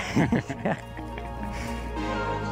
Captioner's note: laughs